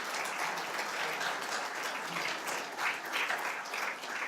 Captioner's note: applause continues